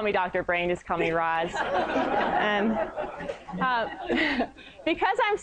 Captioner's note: laughter